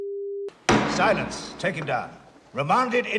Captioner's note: bangs gavel